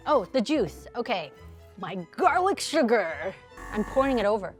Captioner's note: buzzer ringing